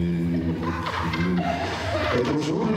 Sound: laughter in the audience

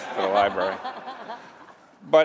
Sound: laughter

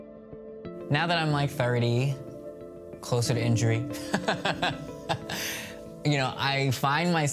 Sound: laughing

